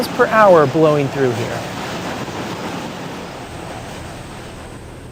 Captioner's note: wind blowing